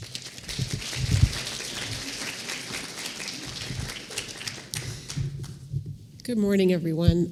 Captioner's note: applause